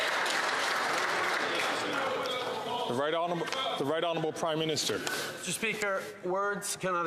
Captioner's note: some Applause